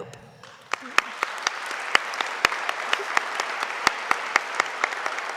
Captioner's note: audience applauding